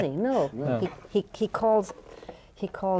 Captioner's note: laughs